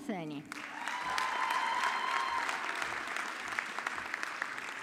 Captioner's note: audience clapping